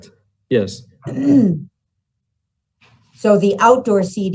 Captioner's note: throat clearing